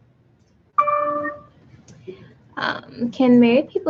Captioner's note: computer dings